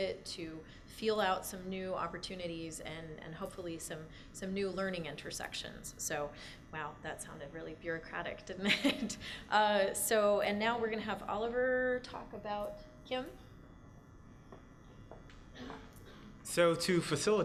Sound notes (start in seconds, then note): 9.5 laughs; 14.5 footsteps